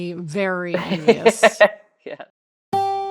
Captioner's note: laughing; light guitar music